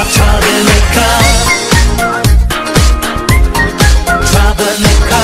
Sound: stinky butt be whistling melodious farts

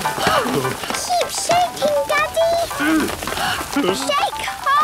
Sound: all panting; all groaning; exclamations

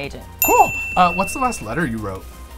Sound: ding

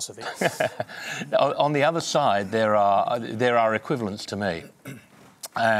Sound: laughs

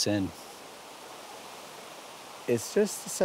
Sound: flowing water

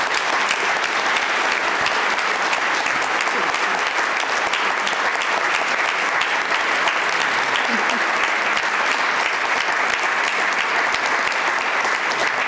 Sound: applause

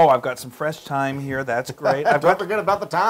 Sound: laugh

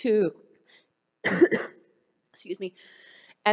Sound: coughs

